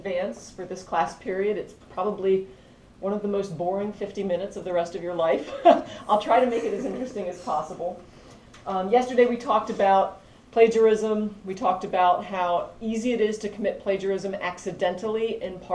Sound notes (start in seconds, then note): 5.5 laugh